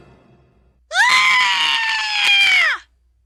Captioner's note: screams